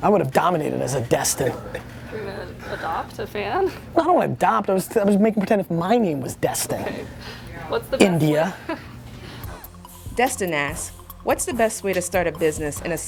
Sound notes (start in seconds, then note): 10.3 voiceover